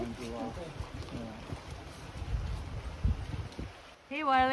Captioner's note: water flowing